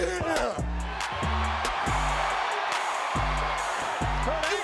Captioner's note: crowd cheers